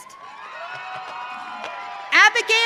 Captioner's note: audience cheering